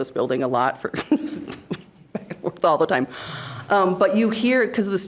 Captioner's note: laughing